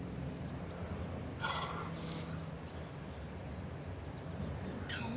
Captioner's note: Tom sighs